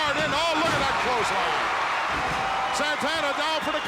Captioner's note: audience cheering